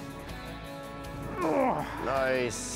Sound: groans

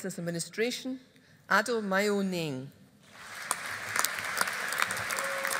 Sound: audience applauding

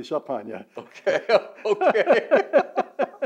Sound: laughing

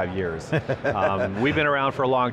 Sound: laughter

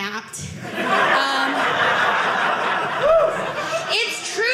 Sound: audience laughing

